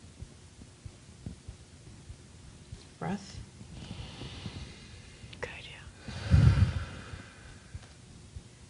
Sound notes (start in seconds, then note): 5.9 loud breathing